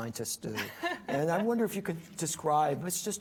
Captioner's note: laughs